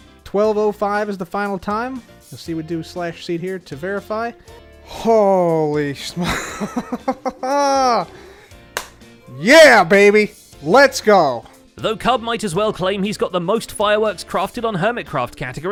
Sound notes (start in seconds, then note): 7.4 sighs in relief; 8.7 claps